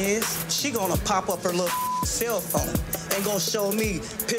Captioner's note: beep